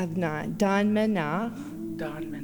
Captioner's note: In Mi’kmaq